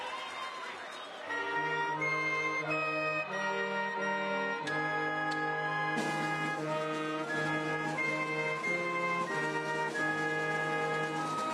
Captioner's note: applause